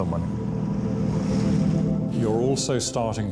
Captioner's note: lifeboat engine whirring